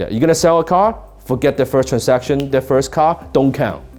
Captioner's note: fingers snap